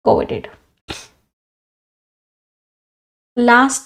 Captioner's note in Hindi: नाक से की जाने वाली आवाज़